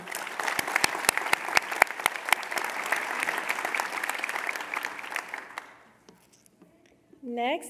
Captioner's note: applause